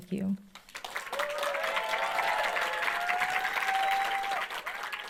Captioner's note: audience applauds